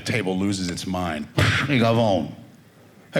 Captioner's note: speaking Italian